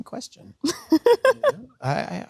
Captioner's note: Sydney laughs